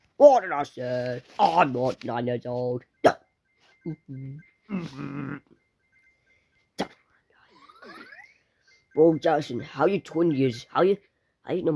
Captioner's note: sigh